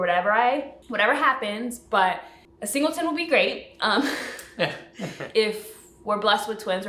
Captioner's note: laughs